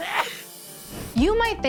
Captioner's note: sneezing